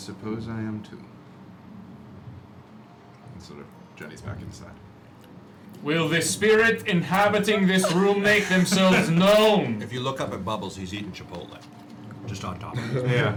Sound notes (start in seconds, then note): 7.4 laugh